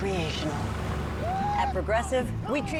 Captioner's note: cheers and applause